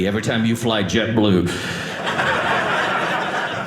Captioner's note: audience laughing